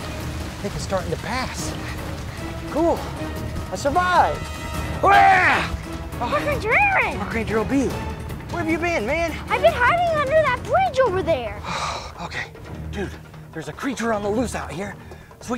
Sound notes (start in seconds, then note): 5.0 screaming